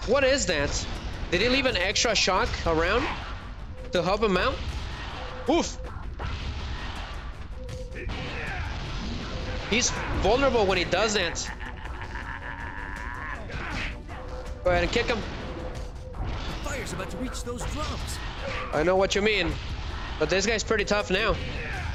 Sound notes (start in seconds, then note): 11.3 groaning; 11.8 screaming